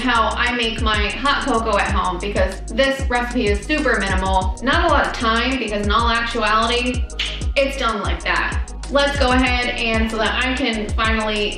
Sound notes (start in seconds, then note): 7.1 snaps